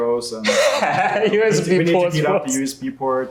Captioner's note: laughs